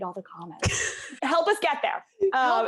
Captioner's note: laughs